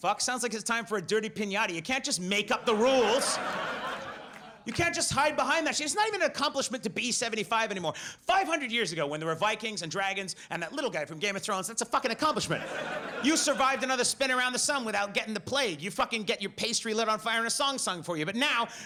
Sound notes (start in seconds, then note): 2.5 audience laughs; 12.2 audience laughs